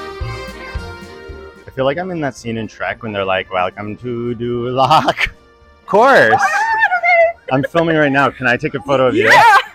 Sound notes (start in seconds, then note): 6.3 women exclaiming excitedly